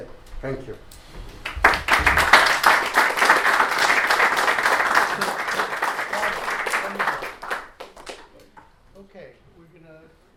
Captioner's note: applause